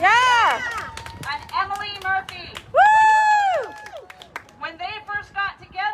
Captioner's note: cheering